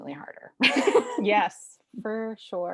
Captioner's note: both laughing